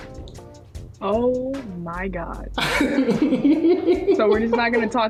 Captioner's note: laughs